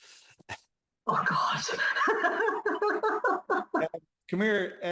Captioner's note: laughs